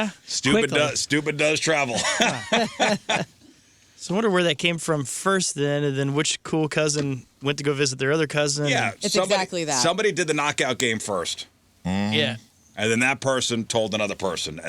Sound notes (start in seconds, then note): 1.9 laughter